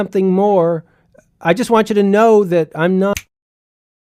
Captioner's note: fingers snap